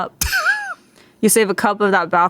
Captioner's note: laughs